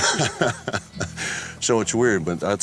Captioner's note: laughs